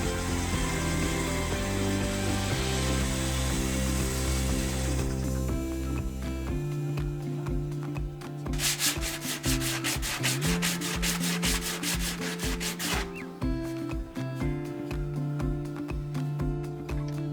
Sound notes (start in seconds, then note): 6.4 bright upbeat music; 8.5 sandpaper scratching; 13.9 bright upbeat music